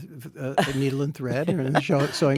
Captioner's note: Anna laughs